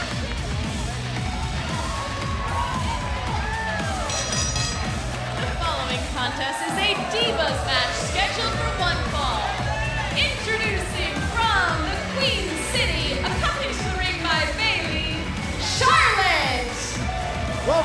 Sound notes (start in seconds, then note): 0.3 crowd cheering; 4.0 bell ringing